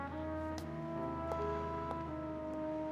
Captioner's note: footsteps receding